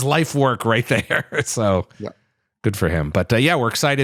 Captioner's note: laughs